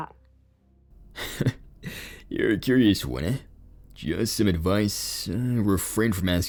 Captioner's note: chuckles